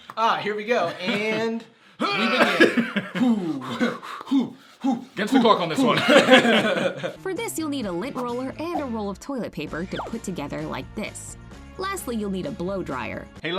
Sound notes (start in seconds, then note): 2.0 grunting sounds; 4.8 laughs